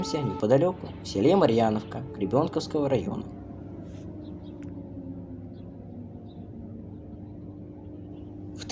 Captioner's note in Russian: звук воздушной тревоги !!!